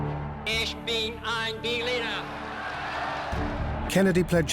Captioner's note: crowd cheers